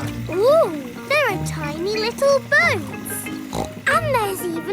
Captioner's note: snorts